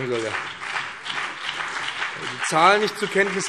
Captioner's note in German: Beifall BÜNDNIS 90/DIE GRÜNEN, CDU und vereinzelt SPD